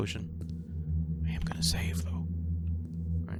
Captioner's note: whispers